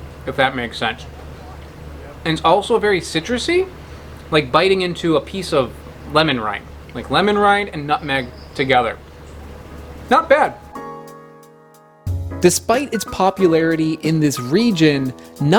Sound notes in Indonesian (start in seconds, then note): none